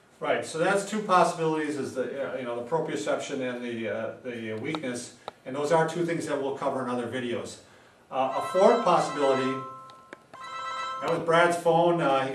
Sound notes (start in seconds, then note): 8.2 phone rings